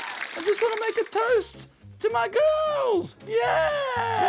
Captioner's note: high-pitched voice